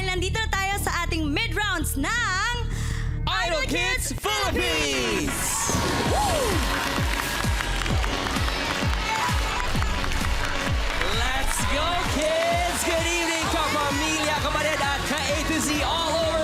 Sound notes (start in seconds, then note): 7.6 loud cheering, applause; 7.6 upbeat music playing